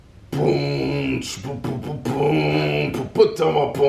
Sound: beat boxing

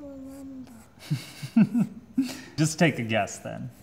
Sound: laughing

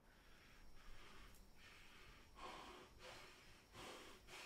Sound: Shane panting

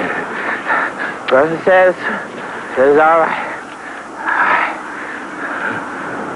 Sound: panting

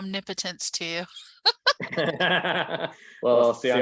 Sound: laughing

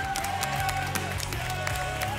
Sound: applause and cheering

